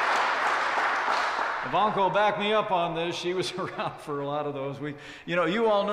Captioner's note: applause; laughs